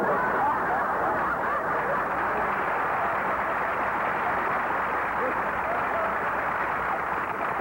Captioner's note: applause